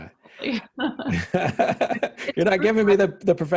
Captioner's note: laughing